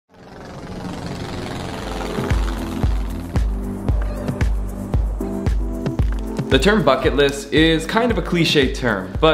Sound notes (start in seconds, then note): 0.0 plane engine; 2.0 upbeat rhythmic music